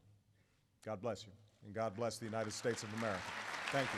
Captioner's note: applause